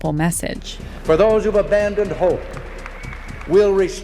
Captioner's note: soundbite of archived recording